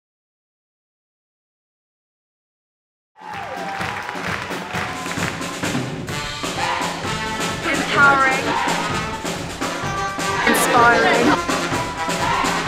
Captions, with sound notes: [Clapping and cheering] [Lively music plays] Empowering Inspiring